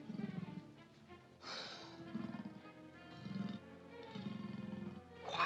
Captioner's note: panther growls; panther hisses and growls